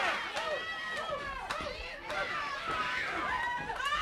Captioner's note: crowd yelling